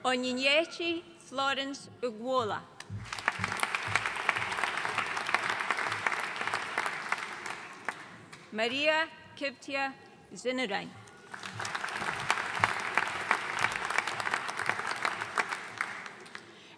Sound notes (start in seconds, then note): 3.0 audience applauding; 11.2 audience applauding